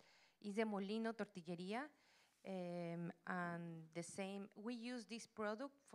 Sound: Spanish language

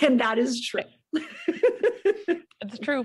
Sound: laughs

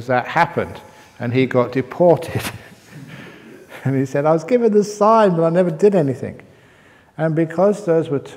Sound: chuckle

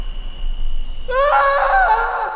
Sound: scream

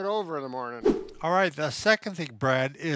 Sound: images whooshes

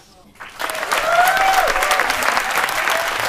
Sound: applause

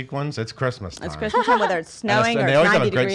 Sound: laughs

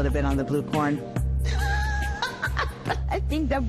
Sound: laughs

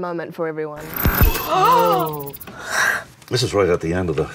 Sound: gasping

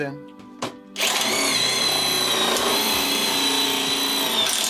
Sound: drilling

